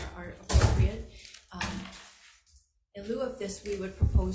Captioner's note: door thuds